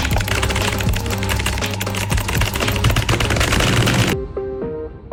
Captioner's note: intense Typing Noises